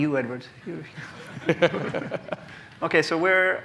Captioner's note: laughter